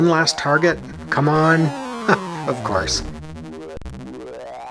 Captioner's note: chuckles